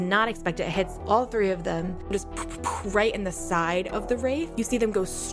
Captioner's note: imitates missiles